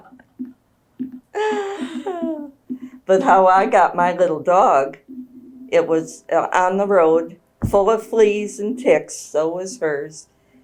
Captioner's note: laughter